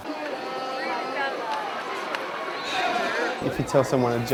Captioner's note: crowd chattering